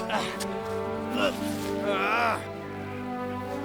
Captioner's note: grunting